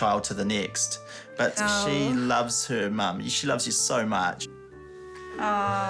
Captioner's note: groans